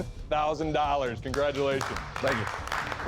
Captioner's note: applause